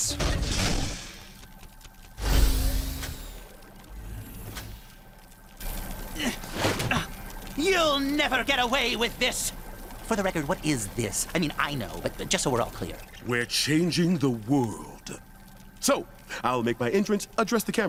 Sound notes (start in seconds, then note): 2.2 door opens